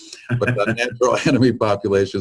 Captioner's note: laughing drowns out speaker